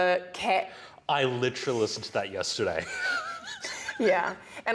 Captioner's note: laughs